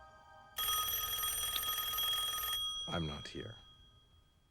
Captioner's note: telephone rings